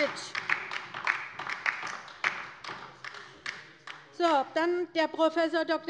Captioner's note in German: Beifall bei der LINKEN